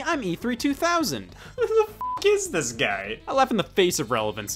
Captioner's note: beeps